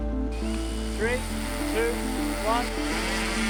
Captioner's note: drone whirring